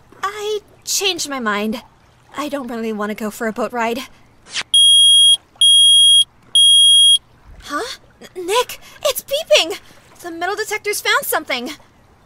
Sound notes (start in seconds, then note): 4.6 beep* *beep* *beep